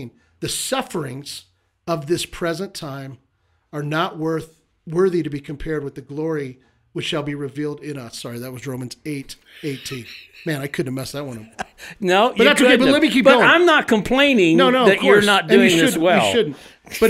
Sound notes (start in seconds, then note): 9.5 co-hosts giggling